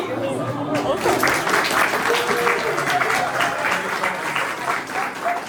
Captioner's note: audience applauding